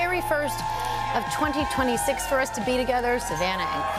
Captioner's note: cheering